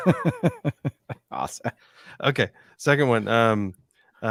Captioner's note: both laughing